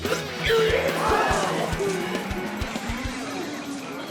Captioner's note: Ezra puking